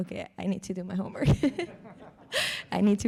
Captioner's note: everyone laughs